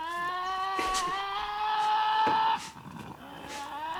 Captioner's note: growling